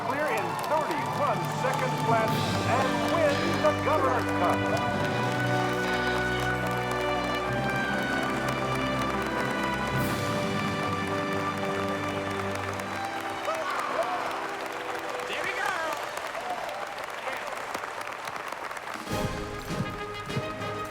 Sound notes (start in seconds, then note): 5.9 audience applauding; 13.6 uplifting music continues; 19.0 upbeat music